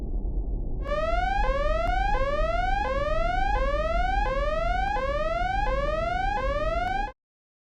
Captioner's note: alarm sounding